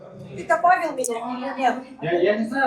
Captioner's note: speaking foreign language